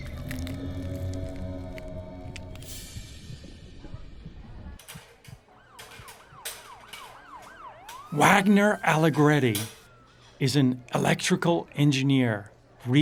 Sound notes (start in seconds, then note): 0.0 tissue crackling; 0.0 eerie music; 2.6 cymbals; 4.3 restaurant sounds; 5.2 sirens blaring; 5.2 people chattering